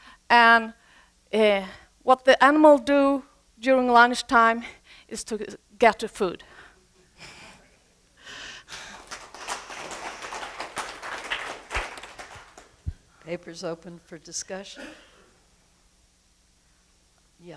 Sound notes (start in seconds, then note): 8.6 applause